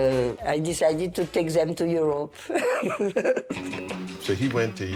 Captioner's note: laughs